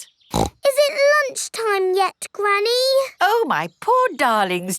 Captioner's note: snorts